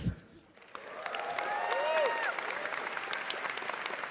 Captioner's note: cheering